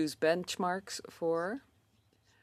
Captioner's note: speaking in French